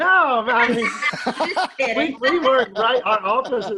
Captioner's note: laughing